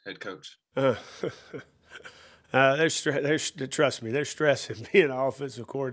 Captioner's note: chuckles